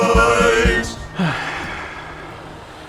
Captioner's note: sigh